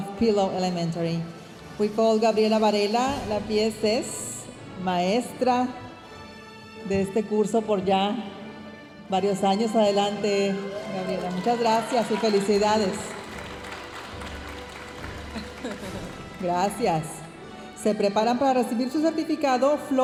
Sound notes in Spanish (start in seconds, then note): 1.8 hablando en inglés; 13.5 aplausos de la audiencia